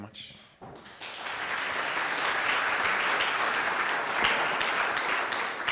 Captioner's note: audience applauds